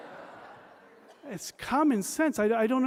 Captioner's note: laughter